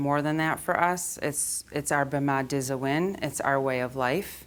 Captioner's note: speaking foreign language